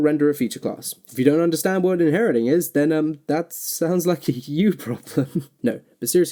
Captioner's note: laughs